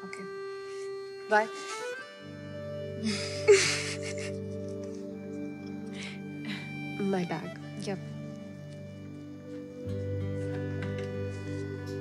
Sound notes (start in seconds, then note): 3.0 Both laugh